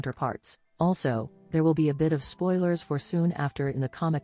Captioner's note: robot voice